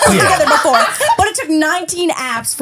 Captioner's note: laughing